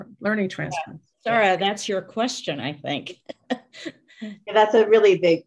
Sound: laughter

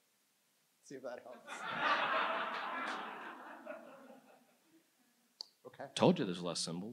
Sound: audience laughs

